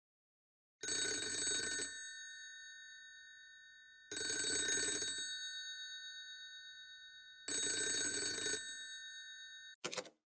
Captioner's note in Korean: 전화 벨소리